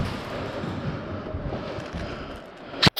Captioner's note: heavy breathing Lol